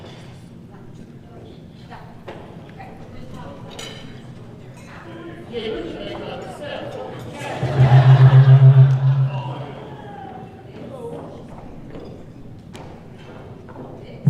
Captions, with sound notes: - Testing one, two, three. No, okay. (people murmuring)